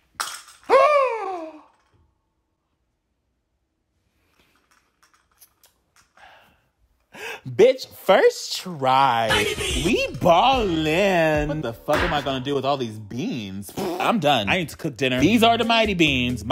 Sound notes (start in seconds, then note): 0.2 bean clacking; 1.1 gasping; 13.7 lip-trilling